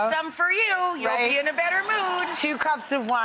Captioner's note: audience laughs